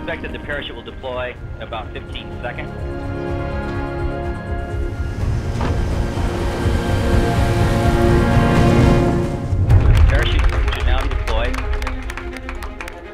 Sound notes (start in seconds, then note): 3.2 intense music; 4.7 parachute deploys; 9.7 applause; 12.9 intense music